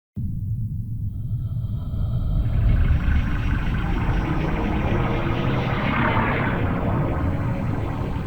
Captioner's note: eerie blue space noises